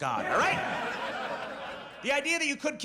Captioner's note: audience laughs